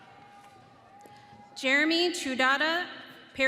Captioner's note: audience cheering